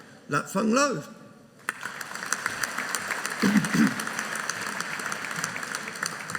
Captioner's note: audience applauding